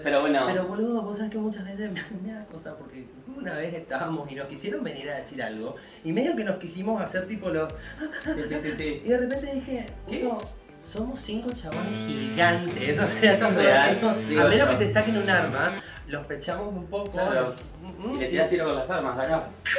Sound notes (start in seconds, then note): 7.8 gasp of fear; 11.6 electric guitar riff